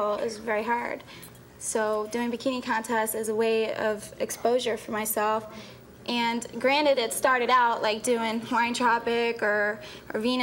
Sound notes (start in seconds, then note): none